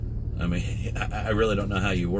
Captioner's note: laughs